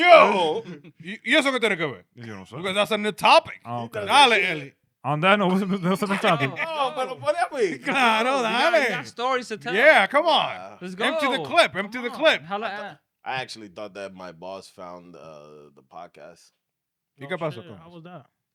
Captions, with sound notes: No, but whatever. (Speaking In Foreign Language) Yeah, come on. Empty the clip, empty the clip. I actually thought that my boss found the podcast. You got possible. How was that?